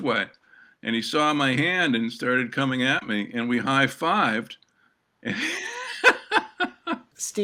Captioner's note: laughter